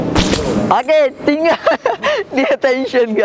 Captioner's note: laughing